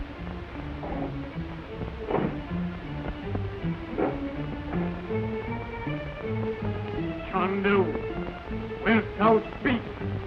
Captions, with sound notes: (suspenseful orchestral music) (wheel clacks) - Chandu, wilt thou speak?